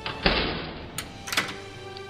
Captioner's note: cell door locking